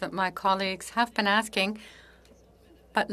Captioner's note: speaking French